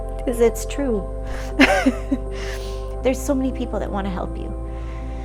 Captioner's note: laugh